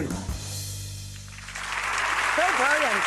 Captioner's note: clapping